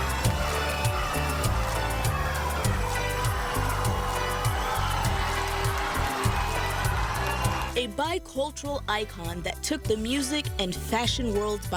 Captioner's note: cheers and applause